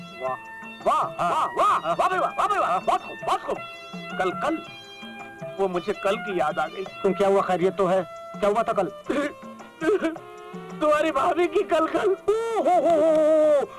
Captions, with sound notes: Great. Wonderful. Yesterday. I was reminded of yesterday. Why? Is everything fine? What happened yesterday? - (Crying) My wife's nagging..